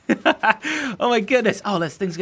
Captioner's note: laughing